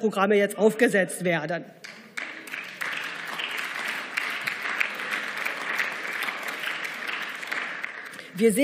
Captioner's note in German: Beifall